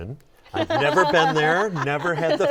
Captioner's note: laughter